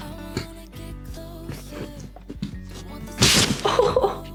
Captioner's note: crunches of bones